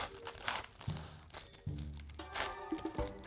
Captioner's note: knife cutting